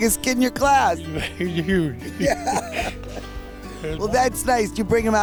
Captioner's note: laughing